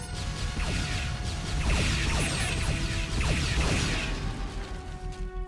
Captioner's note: explosion